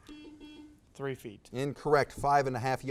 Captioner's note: buzz